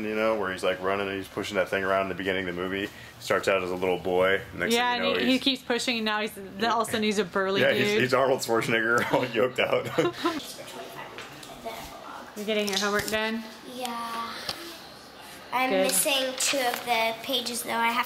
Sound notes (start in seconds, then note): 8.9 laughs